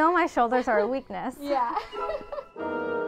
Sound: chuckles; bright orchestral music

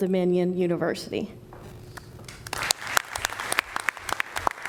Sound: applause

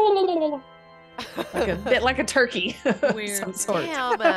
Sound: laugh

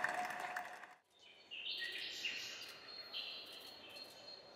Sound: birdsong

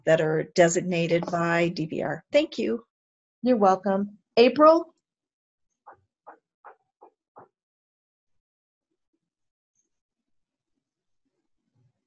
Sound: silence

